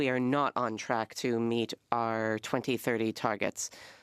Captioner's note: speaking French